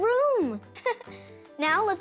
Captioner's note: giggles